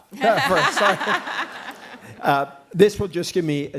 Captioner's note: laughter